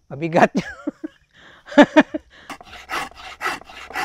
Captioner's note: laughs